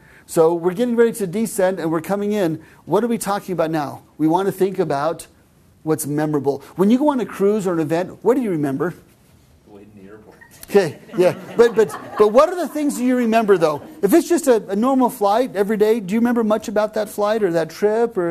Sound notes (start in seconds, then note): 10.3 laughing